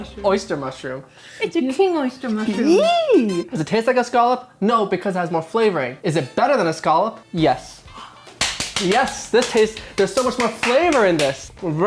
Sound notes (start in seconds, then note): 8.2 clapping